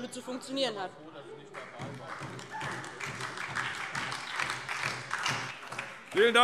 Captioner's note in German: Beifall DIE LINKE und SPD